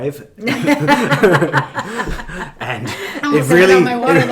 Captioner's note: laughing